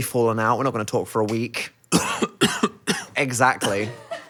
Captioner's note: coughing